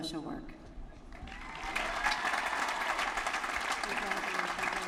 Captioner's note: applause